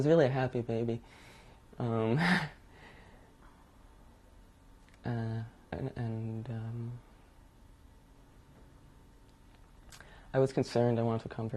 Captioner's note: laughs